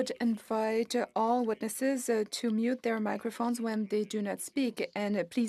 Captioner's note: speaking French